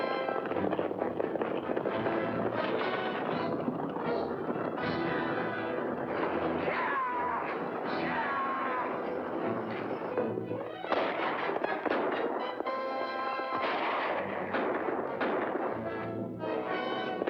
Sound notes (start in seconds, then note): 0.1 dramatic music; 0.1 hooves pounding; 10.8 gunshots